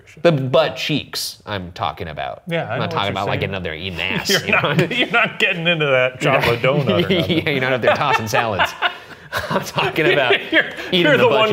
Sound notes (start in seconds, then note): 4.1 chuckling; 9.4 chuckling